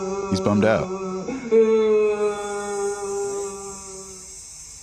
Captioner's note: sad mooing